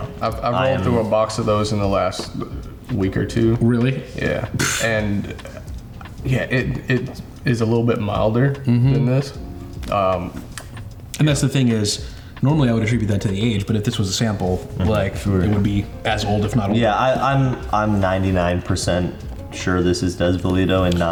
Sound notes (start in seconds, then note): 4.5 blows raspberry